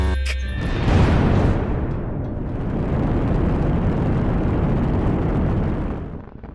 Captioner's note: thrusters firing; thrusters sputtering out